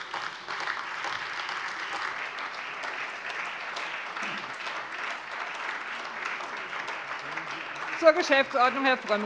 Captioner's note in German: Beifall SPD, AfD und Freie Demokraten